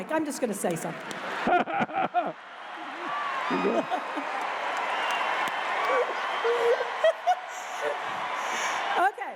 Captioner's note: laughter